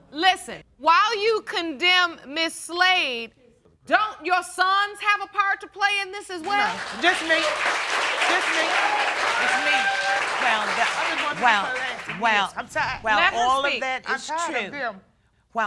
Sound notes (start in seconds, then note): 6.4 audience applauds